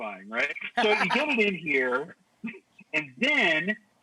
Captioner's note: Rachael laughs